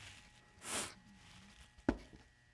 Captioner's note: sniffles